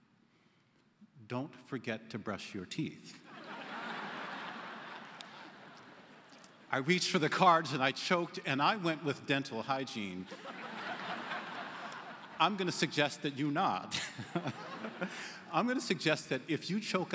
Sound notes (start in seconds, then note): 4.8 laughter; 10.2 laughter